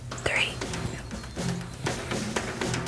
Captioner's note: whispering